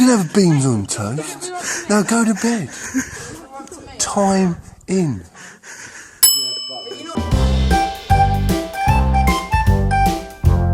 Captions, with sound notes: I'm gonna have a beans on toast. Now, go to bed. Time in. (dinging) (playful music)